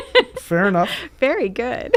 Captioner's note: laughing